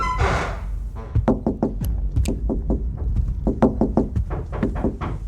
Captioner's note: knocking on door